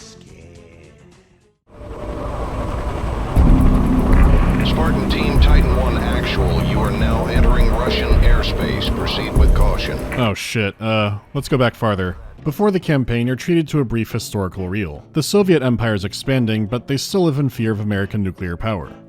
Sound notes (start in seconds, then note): 1.7 murmur of helicopter blades; 3.3 tense music